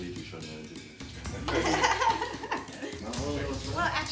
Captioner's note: all laughing